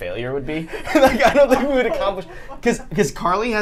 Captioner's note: laughs